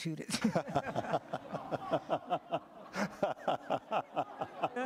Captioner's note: laughter